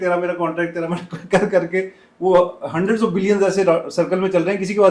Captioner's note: laughter